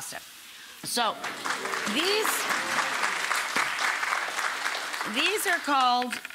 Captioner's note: audience applauds